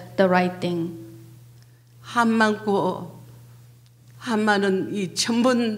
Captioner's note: speaking foreign language